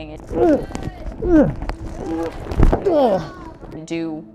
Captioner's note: aggressor grunting